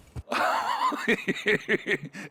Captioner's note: laughs